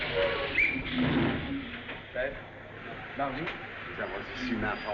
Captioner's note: conversing In French